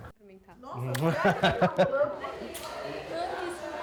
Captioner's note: laughing